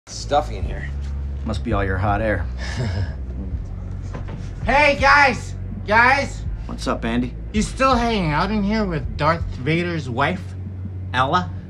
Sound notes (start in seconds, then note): 3.0 chuckles sarcastically; 4.3 slurring words